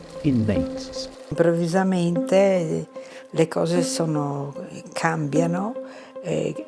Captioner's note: speaking in foreign language